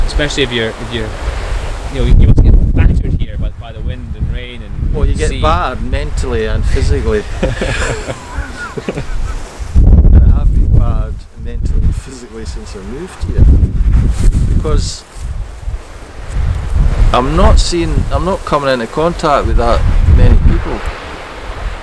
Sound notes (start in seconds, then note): 7.1 both laugh